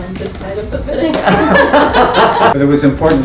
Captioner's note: all laughing loudly